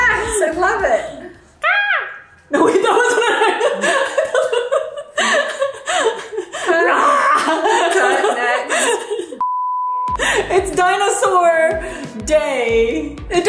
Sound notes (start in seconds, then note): 1.6 shrieks; 4.5 laughs; 6.9 roars